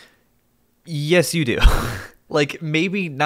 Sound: chuckles

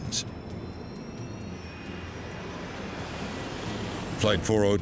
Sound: engine humming

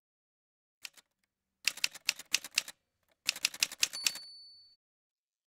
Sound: typewriter sounds

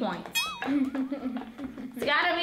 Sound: ringing

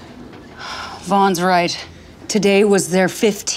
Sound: sighs

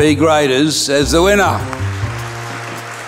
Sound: applause

